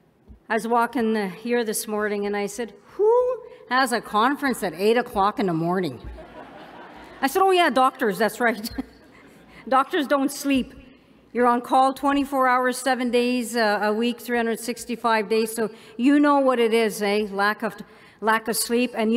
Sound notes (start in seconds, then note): 6.0 laughter